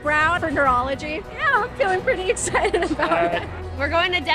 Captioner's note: giggling